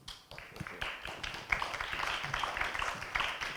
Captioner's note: audience claps